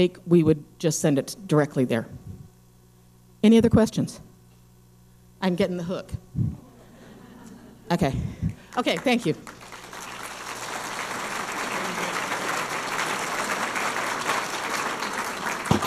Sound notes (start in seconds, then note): 6.6 audience laughing; 8.7 audience applauding